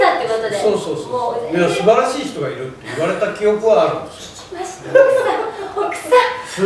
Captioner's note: laughs